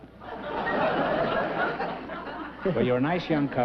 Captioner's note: chuckling